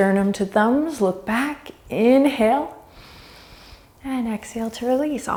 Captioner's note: deep breaths